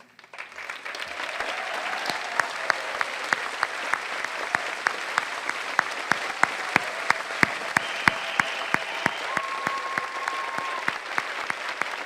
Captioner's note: applause